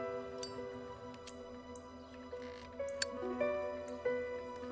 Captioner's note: lighter clicks